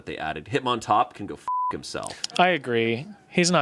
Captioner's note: beep